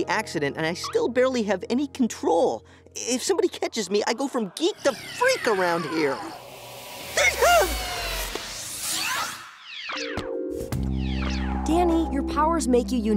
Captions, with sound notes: and I still barely have any control. If somebody catches me, I go from geek to freak around here. [shrieking] Danny, your powers make you unique.